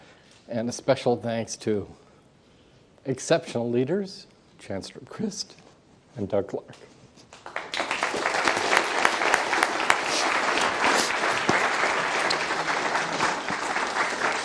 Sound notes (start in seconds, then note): 7.3 applause